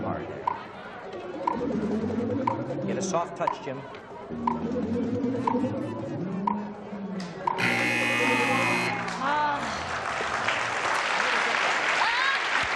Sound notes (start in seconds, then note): 7.5 buzzer; 10.6 applause